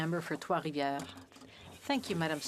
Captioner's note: speaking French